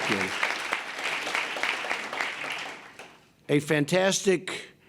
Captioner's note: applause